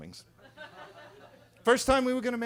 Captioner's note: attendees laughing